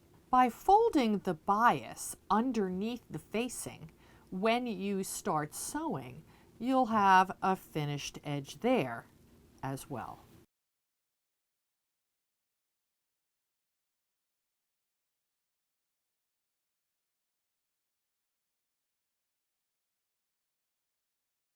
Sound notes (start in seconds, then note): 10.4 no Sound Present